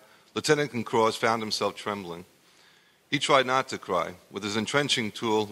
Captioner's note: none